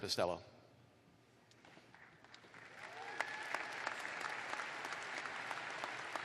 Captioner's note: applause